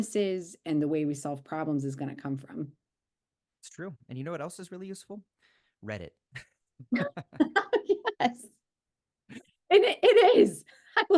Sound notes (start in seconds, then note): 6.9 both laughing